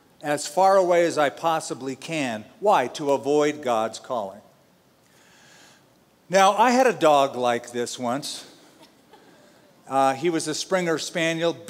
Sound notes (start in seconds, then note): 8.9 laughter